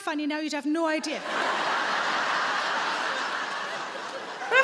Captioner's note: audience laughing